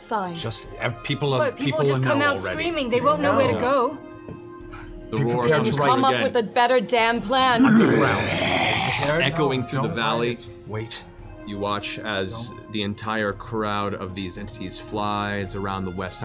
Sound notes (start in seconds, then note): 7.7 roar